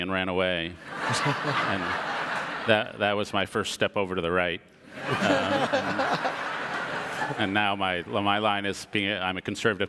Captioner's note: audience laughter